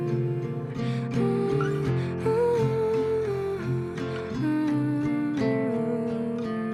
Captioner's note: gentle guitar music; humming